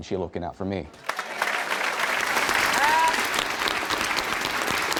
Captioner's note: applause